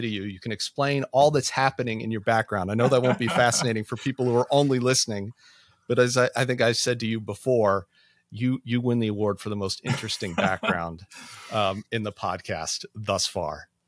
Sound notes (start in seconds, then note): 2.8 laughs; 9.8 laughs